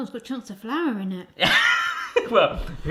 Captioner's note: laughs